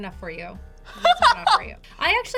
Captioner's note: laughs